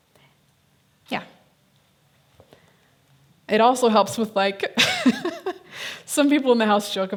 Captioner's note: laughs